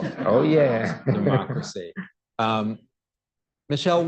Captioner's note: laughter